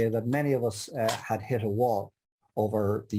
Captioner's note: hand tapping